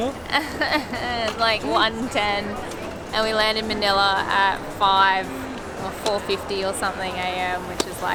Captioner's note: whiney voice